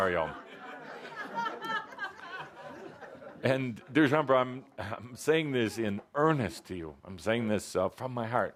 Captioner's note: laughter